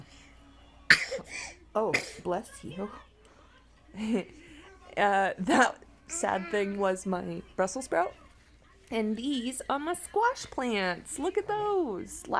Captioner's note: baby sneezing